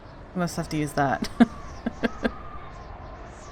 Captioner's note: laughs